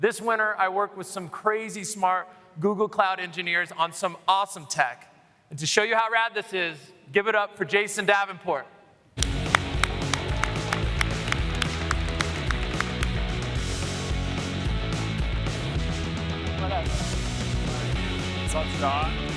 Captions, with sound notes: And now, Google Cloud is bringing AI to the mountain. This winter, I worked with some crazy-smart Google Cloud engineers on some awesome tech. And to show you how rad this is, give it up for Jason Davenport. [APPLAUSE] [ROCK MUSIC]